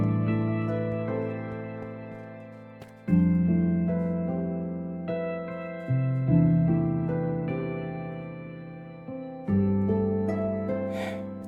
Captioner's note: sigh